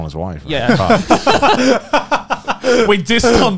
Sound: laughing

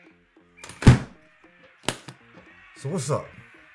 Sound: case slamming

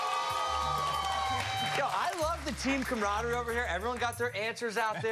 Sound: cheers and applause

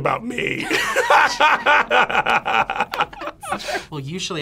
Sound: both laugh

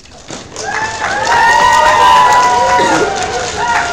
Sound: crowd cheers

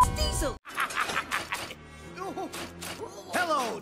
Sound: laughs in evil again

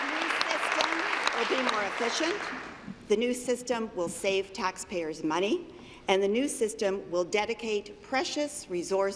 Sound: applause

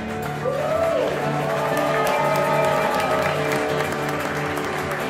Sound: audience applause

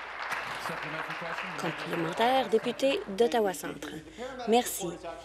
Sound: applause

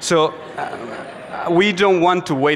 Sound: audience laughs

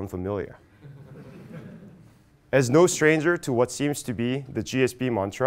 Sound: laugh

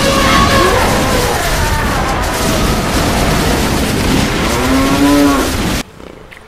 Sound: mixed animal noises

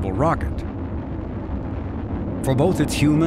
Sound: rocket engines roaring

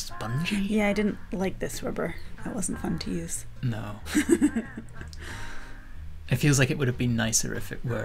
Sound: laughter

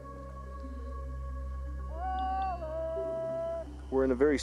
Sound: voiceover

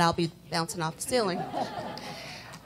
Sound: laughter

